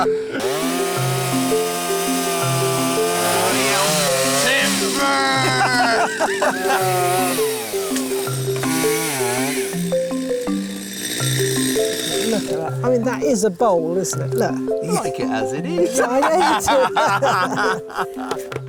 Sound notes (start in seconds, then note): 0.0 all laughing; 0.2 chainsaw whirring loudly; 0.2 light melodic music; 4.4 both laughing; 8.3 chainsaw whirring loudly; 8.3 light melodic music; 15.8 both laughing